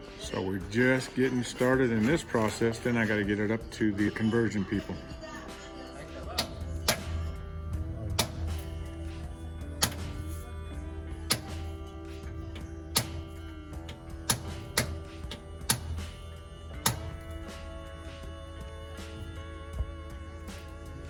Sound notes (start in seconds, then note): 6.2 hammering noises